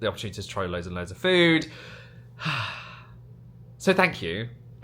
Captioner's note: sighs